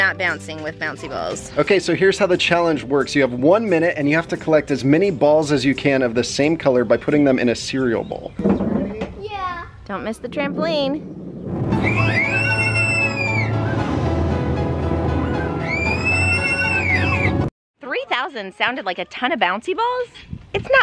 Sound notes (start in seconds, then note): 11.7 kids screaming; 14.1 upbeat music